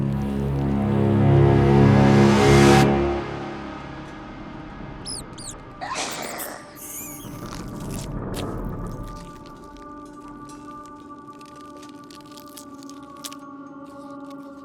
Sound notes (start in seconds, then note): 0.1 eerie music; 5.0 rat squeaking; 5.8 Mya snarls; 7.4 Mya chomping; 7.4 eerie music